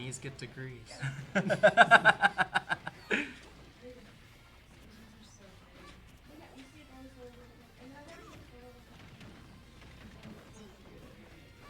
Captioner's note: laughter